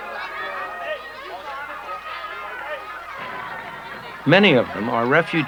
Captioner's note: traffic and marketplace sounds